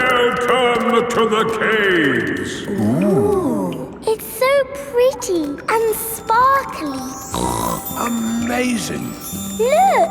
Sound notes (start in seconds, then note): 7.3 snorts